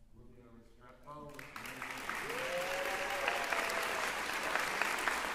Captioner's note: cheering, applause